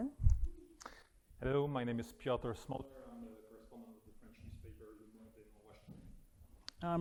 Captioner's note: speaking faintly